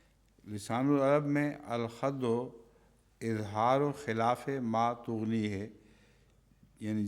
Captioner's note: Arabic